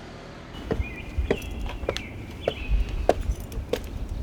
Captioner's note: bird tweeting